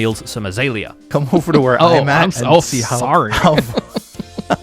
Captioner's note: laughs